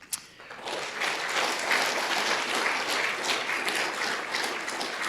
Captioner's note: audience applauding